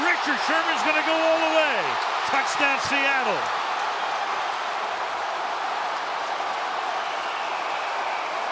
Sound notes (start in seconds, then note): 3.9 cheering